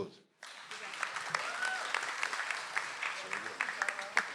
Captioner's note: audience applauds